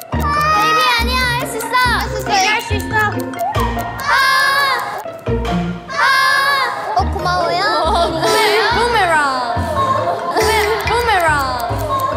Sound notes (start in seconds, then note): 3.2 everyone's busy cheering